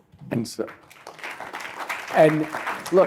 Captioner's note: applause